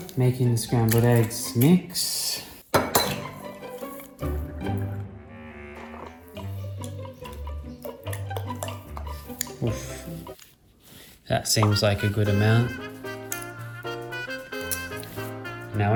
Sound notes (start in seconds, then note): 2.1 cracking egg; 2.9 mischievous music; 5.7 pouring milk; 13.6 jazzy music